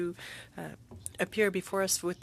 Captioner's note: speaking French